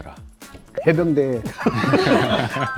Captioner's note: laughter